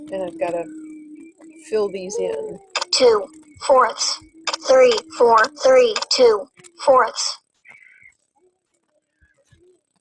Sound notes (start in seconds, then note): 3.2 voiceover